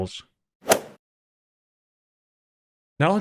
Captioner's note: golf ball hit sound